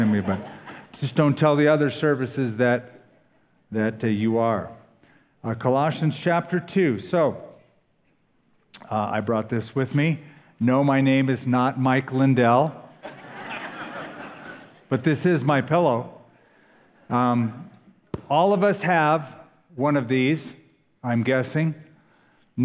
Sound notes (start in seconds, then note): 13.0 laughter